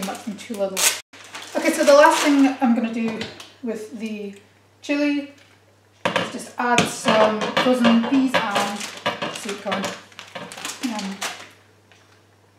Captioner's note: lid of pot rattles as it roacks to and fro